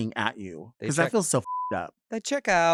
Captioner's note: beep